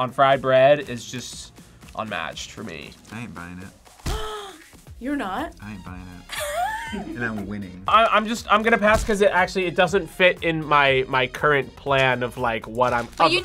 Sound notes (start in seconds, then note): 4.5 gasps; 6.3 React laughs